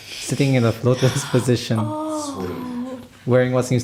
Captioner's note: gasp